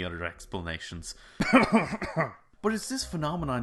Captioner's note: cough cough